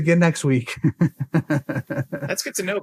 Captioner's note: laughs